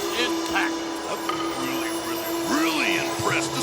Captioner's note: Yokozuna claps